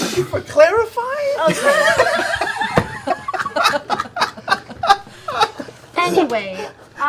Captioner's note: laugher